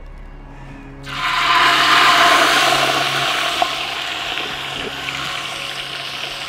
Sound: oil sizzle

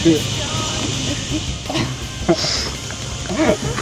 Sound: laughing

